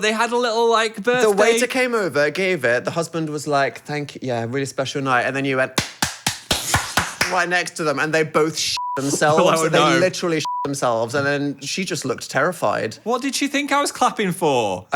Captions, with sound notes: But they had a little like birthday- - The waiter came over, gave it. The husband was like, thank you, yeah, really special night. And then you went (clapping) right next to them and they both (beep) themselves. - I know. - And they literally (beep) themselves. And then she just looked terrified. - What did she think I was clapping for?